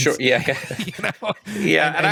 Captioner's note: laughter